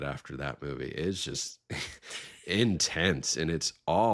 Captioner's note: both chuckling